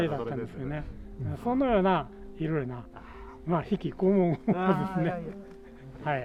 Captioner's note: laughs